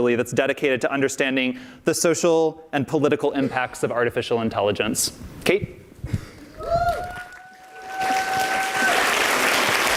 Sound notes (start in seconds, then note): 7.0 audience applauds